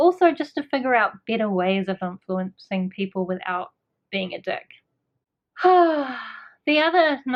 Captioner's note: sigh